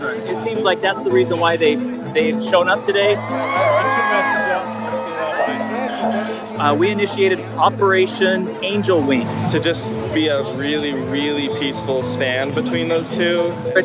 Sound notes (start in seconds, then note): 3.5 cheering